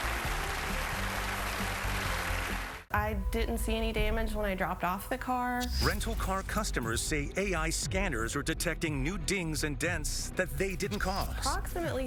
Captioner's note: applause